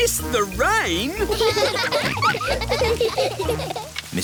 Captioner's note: all laughing